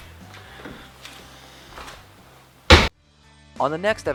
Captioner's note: thump